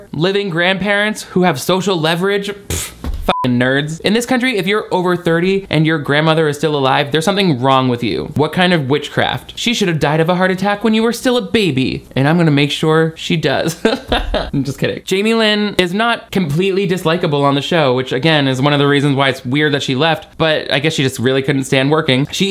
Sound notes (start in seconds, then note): 3.2 beep; 13.6 chuckling